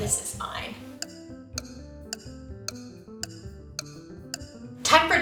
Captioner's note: clock ticking